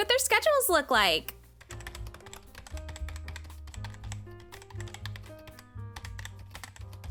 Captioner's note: typing noises